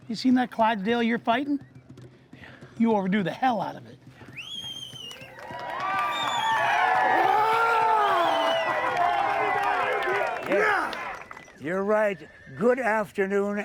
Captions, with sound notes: You seen that Clydesdale you're fighting? Yeah. You overdo the hell out of it. [crowd cheering] [boxer growling] Yes, you're right, good afternoon